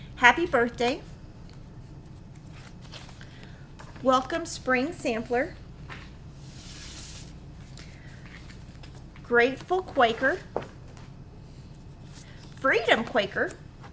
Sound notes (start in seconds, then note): 7.5 papers shuffling